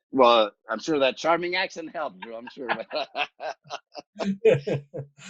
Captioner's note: laughs